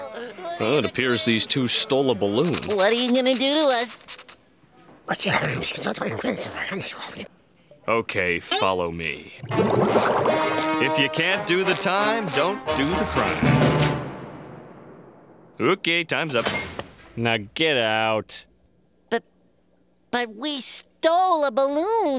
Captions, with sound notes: Well, it appears these two stole a balloon. What are you going to do to us? [whispering] Okay, follow me. If you can't do the time, don't do the crime. Okay, time's up. Now, get out. But... But we stole a balloon.